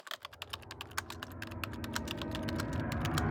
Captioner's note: typing